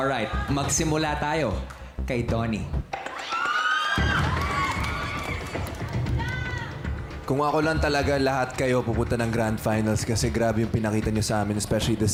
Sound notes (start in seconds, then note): 3.0 audience screaming; 4.0 stirring music playing